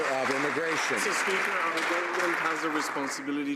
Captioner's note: some Applause